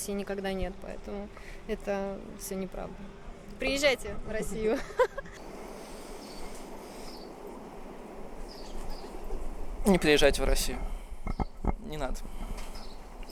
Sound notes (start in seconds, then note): 4.7 giggles